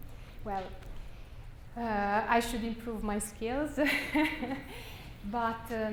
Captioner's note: laughs